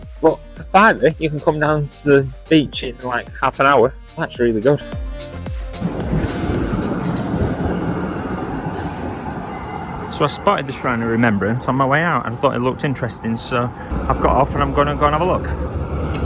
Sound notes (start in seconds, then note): 6.1 tram noise